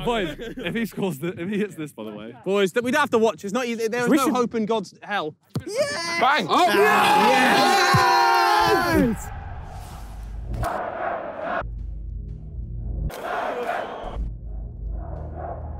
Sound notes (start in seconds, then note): 5.8 players cheer; 10.6 crowd cheers indistinctly; 15.5 crowd cheers indistinctly